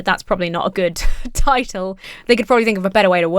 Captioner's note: wheezes